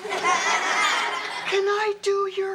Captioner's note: audience laughs